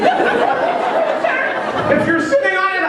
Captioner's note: laughter